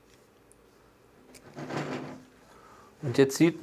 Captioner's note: rumbling